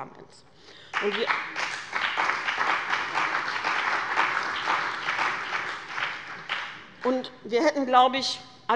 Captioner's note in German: Beifall bei dem BÜNDNIS 90/DIE GRÜNEN und der CDU